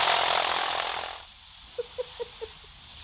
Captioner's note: giggles